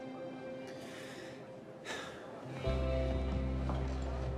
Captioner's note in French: soupir